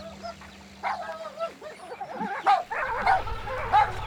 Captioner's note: pieter barking